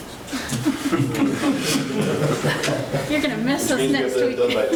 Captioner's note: all laughing